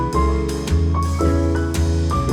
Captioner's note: none